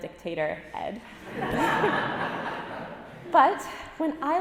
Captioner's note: audience laughing